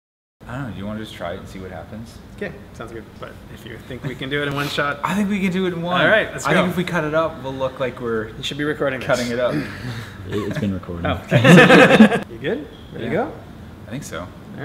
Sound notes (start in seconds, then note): 11.3 laughter